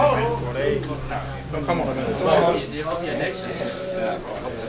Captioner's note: chattering in the background